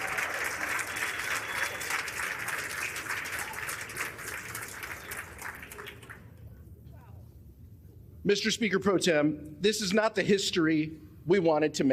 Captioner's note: applause